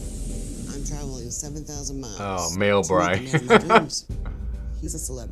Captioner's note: laughs